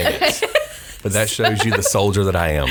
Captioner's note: laughs